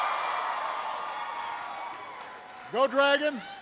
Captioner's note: applause